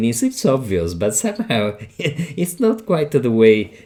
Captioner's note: chuckling